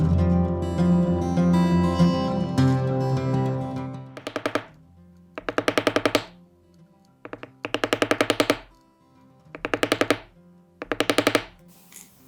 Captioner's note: hammering